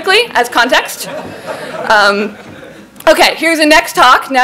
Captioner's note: laughing